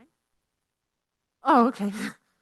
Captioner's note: speaking faintly